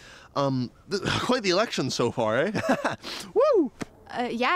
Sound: laughs

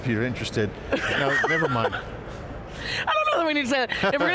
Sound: laughing

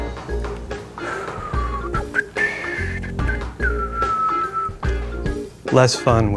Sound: whistles

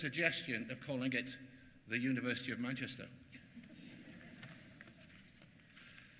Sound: laughter

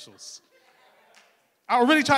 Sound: crowd laughing

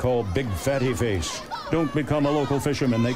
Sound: children teasing

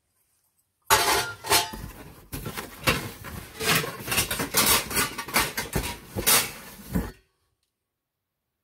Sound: banging of silver plate as I rummage around

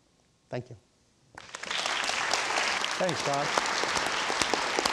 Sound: audience applauds

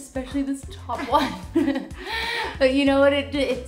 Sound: laughing

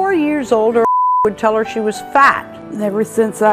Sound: beep

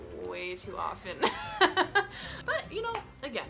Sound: laughs

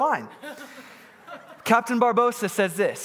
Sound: congregant laughing

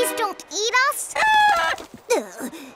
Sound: clucking

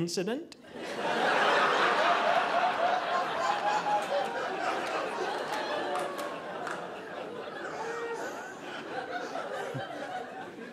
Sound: audience laughing

